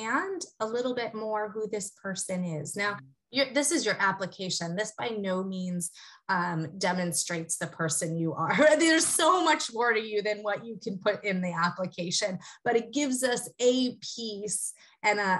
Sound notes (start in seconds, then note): 7.8 laugh